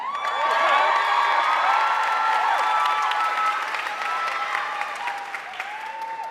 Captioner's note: audience cheering and applauding